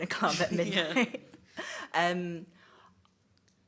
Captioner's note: she chuckles